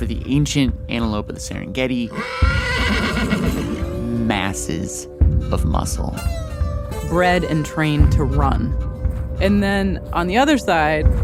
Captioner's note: horse neighs